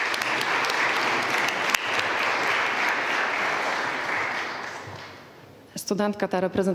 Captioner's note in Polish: oklaski